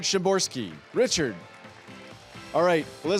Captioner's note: audience applauding